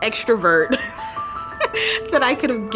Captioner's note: mother laughs